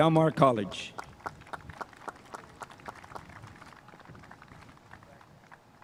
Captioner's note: spectators applauding